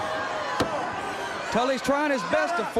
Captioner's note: crowd chatter